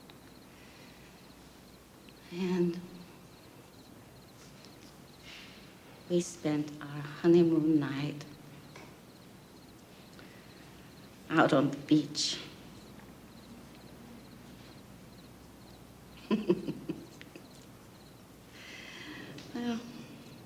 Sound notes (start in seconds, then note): 16.1 chuckles